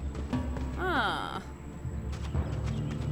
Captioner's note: sighs